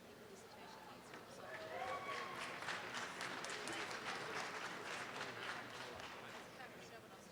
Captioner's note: audience applause